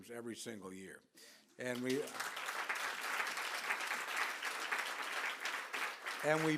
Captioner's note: applause